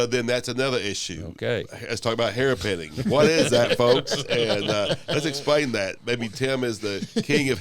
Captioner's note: laughter